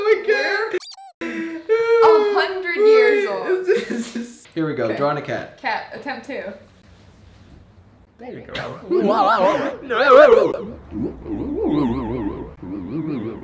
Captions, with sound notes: - (squeaking) 100 years old. - Here we go, drawing a cat. - Cat, attempt two. - There you go. (electronic warbling)